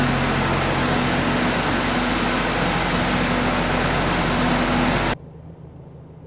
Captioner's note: engine noise